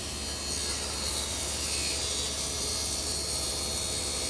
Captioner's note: saw continues to whir